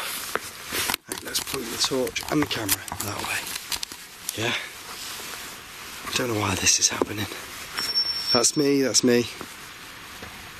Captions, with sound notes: Here we go. Let's point the torch and the camera that way. I don't know why this is happening. (alarm ringing) That's me, that's me.